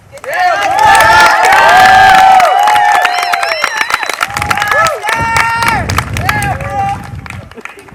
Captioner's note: applause